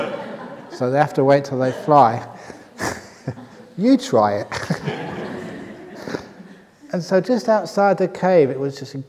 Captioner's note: laughter; laughter